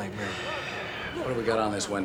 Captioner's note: sighs